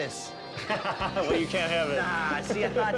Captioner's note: laughs